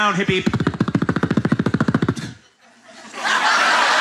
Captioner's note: imitating helicopter; laughter